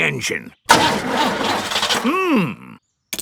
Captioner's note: engine sputtering